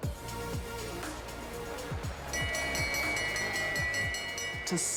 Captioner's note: bell rings